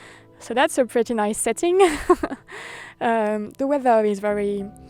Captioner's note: laughs